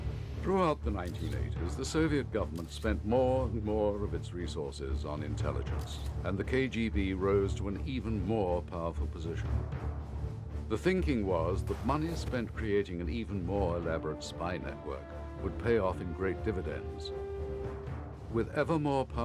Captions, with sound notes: (thrilling music) (camera lens clicks) Throughout the 1980s, the Soviet government spent more and more of its resources on intelligence, and the KGB rose to an even more powerful position.